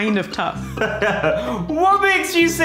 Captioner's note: laughs